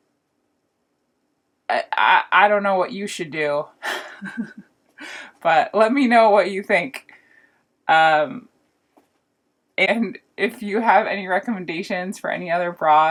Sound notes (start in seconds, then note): 3.8 haha